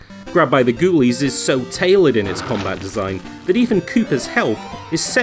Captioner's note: door creaks close, piano glissando